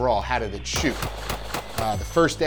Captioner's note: gunshots bang repeatedly